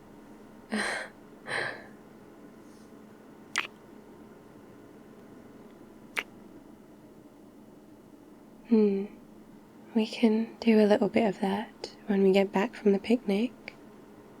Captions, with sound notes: *laughs* *kiss* *kiss* hmm, we can do a little bit of that when we get back from the picnic